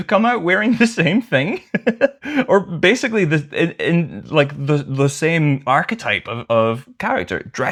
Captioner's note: laughter